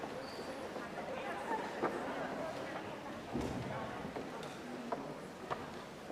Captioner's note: audience chattering indistinctly